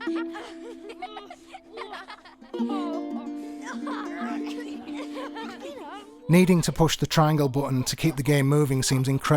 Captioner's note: laughing